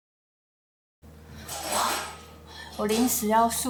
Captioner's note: construction noise confirmed